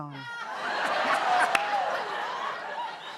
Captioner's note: laughter